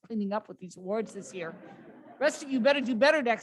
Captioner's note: laughter